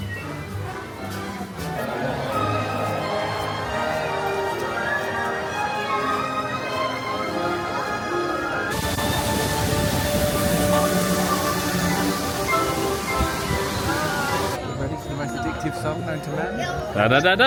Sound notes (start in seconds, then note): 2.1 crowd murmuring; 4.9 dramatic orchestral music